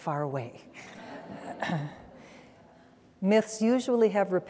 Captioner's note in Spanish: risas